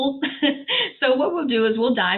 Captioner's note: laughs